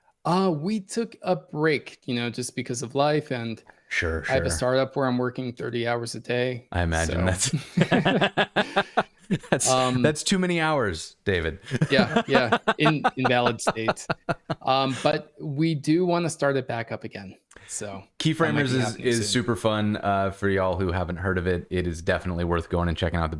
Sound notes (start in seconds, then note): 7.4 laughter